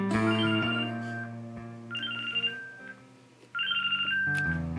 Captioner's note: phone ringing